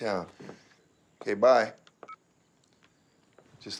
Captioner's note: cell phone beeps